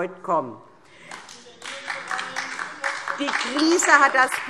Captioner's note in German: Beifall DIE LINKE - Zurufe